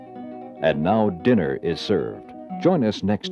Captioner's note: voiceover